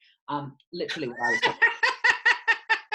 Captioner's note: laughs